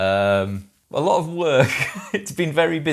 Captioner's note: laughs